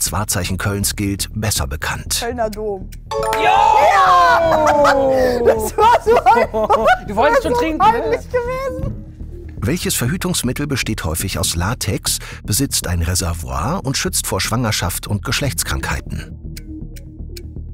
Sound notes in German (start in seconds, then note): 3.1 Jubel; 3.8 lacht